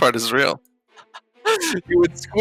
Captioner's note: laughing